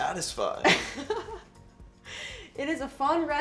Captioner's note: laughs